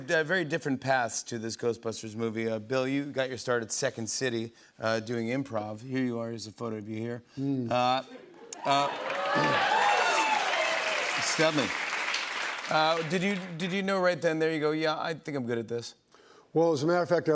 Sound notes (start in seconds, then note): 8.5 cheers and applause